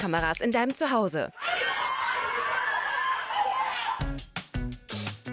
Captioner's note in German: jubeln